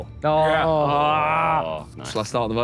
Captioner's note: Sidemen groan